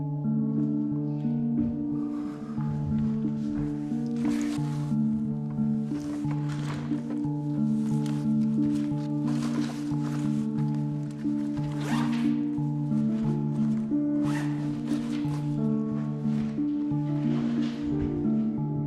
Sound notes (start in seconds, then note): 0.2 light dramatic music; 9.6 bag rustling; 12.1 zipper buzzing; 14.7 light dramatic music continues